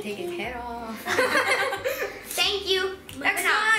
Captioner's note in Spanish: risas